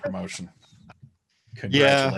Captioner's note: laughs